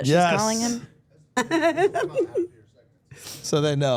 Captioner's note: Steph laughing